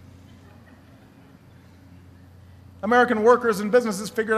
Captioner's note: laughter